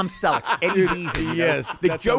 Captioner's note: laughing